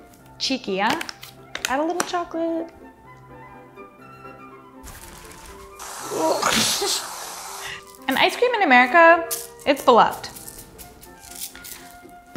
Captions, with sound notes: Cheeky, huh? Add a little chocolate. (cream squishing) (grunting) And ice cream in America, it's beloved.